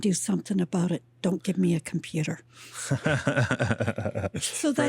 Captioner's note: laughs